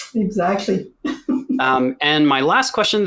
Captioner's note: laughs